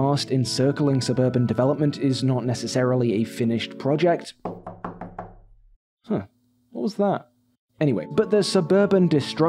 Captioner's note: knock knock